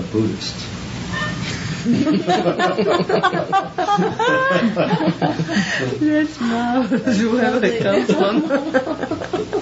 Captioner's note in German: Lachen